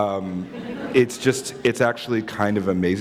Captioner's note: laughter